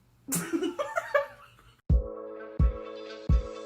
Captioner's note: amused chuckle